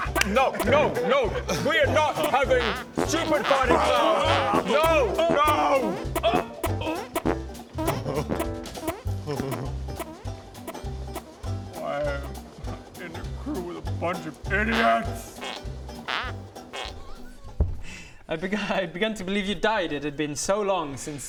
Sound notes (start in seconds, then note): 4.2 farting intensifies; 14.7 pfffpt